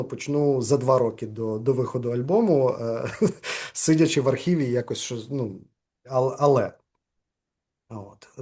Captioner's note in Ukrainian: сміється